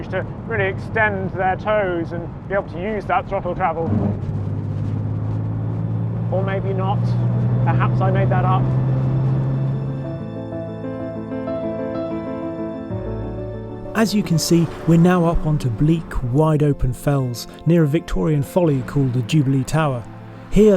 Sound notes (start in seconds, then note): 3.7 engine throbbing; 10.1 dynamic music